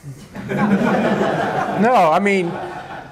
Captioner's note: laughter